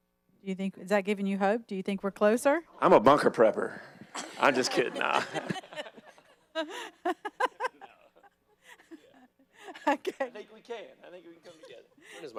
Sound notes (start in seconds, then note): 6.2 audience laughing